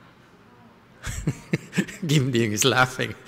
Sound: laughter

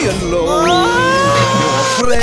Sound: Pooh Screaming

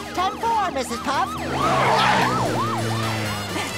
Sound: siren blaring; panting

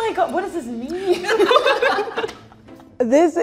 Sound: people laughing

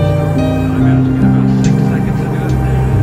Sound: FM radio playing

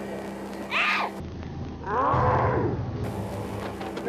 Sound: screams

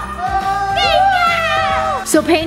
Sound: cheers

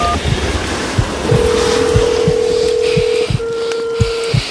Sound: phone tone

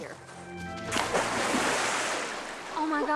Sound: water splashing

